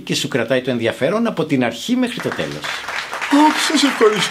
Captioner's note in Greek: χειροκροτήματα